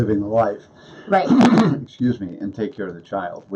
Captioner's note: coughs